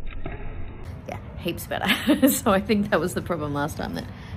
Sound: laughs

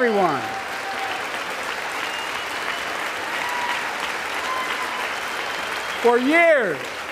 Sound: applause

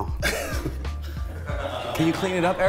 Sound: laughs

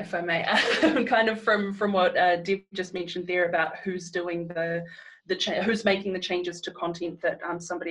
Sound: laughs

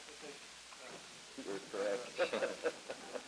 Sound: laughs

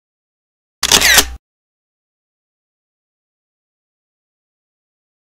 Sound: camera shutters

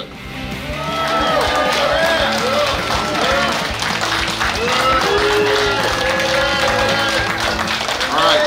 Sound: clapping & Cheering

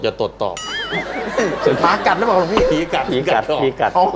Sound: laughter

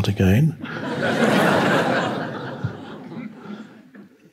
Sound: audience laughing

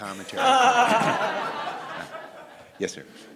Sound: laughter

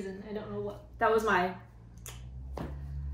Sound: click

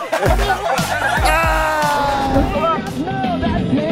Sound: laughter

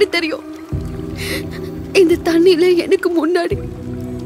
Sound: eeri sound

